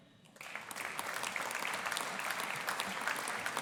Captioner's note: audience applauding